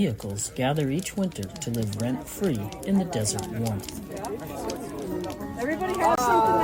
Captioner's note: amid campfire chatter